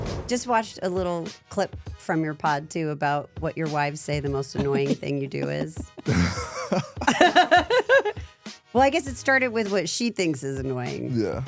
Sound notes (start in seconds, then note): 0.0 groovy music; 6.7 both laugh